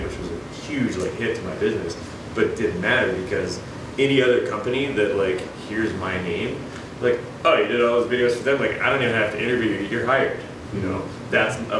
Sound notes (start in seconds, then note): none